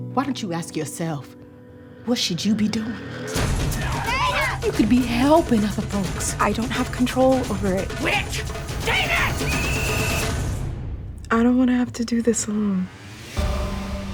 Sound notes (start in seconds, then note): 8.9 blows whistle